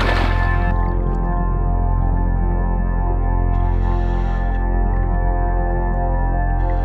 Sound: muffled oxygen whooshing

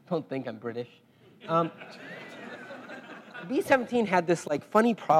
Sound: laugh

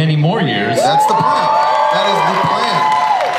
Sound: audience cheers

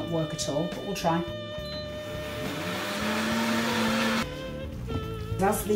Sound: blender starts

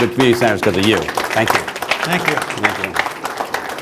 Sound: applause

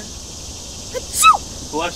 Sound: fake sneeze

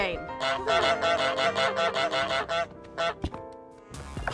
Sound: goose honks

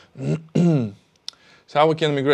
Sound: clears throat

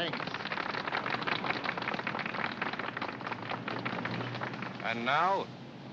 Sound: applause

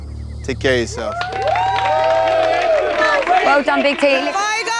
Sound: competitors cheering

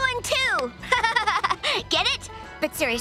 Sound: laughing

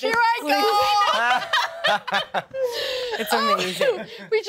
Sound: laughs

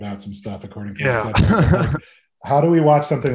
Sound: laughs

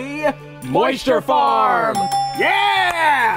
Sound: dinging

